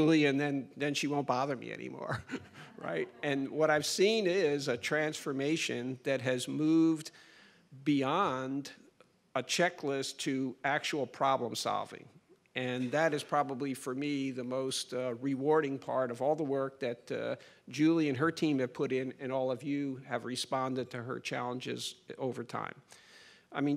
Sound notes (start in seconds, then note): 2.0 chuckles; 3.3 crowd laughs